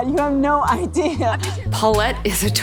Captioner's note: laughing